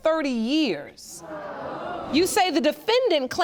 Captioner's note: audience exclaiming